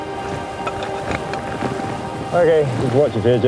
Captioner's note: wind whistling around the mountain; metal ice axe scraping on rock